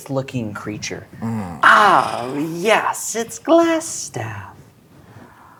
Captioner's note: groans